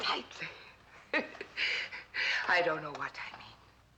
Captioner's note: laughs